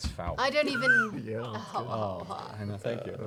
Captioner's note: groaning